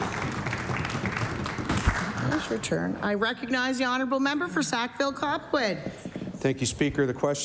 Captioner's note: applause